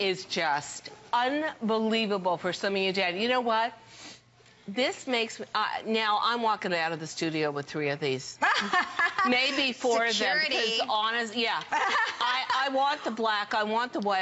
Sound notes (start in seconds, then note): 8.4 laughter